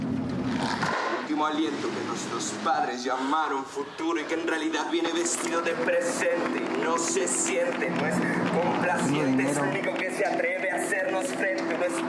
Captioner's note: speaking in Spanish